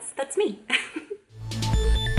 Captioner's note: chuckles; electronic music